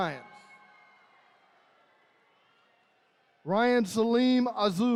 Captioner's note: attendees cheering